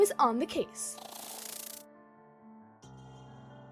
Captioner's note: wings fluttering